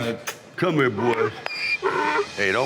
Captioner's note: donkey braying